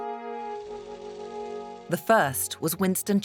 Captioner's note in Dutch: projector zoemt